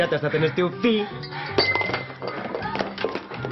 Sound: exhales with difficulty; cup breaks

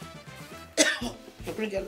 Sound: cough

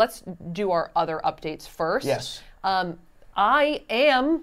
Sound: none

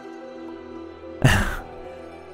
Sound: exhale

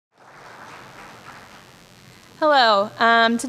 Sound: audience applauding

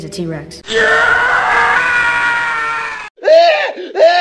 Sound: Howie scream; tantrum scream

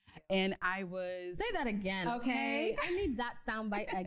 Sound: laughs

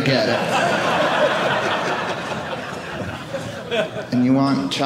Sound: audience laughing

